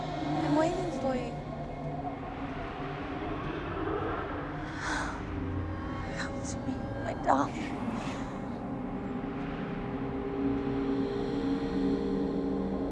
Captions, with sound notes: I'm waiting for you. (wind whistling) (The Matriarch sighs) Come to me my darling. (eerie music) (wind whistling)